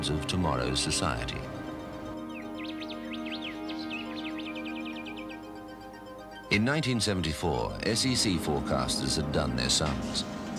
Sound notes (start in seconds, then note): 2.1 birds chirping